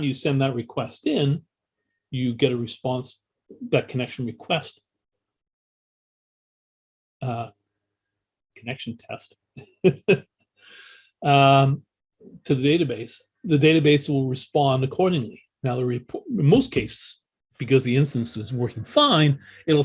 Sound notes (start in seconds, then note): 9.6 laughs